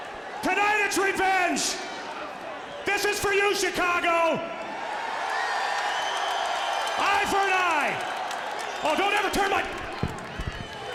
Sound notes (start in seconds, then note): 3.9 audience cheering